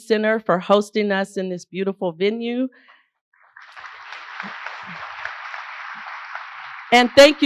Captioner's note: applause